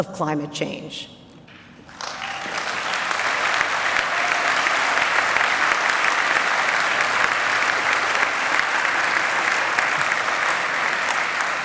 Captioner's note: applause